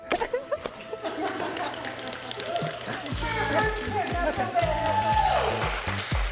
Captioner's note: everyone laughing; people applauding and cheering